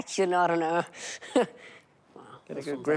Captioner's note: laughs